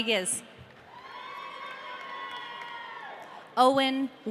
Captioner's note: audience cheering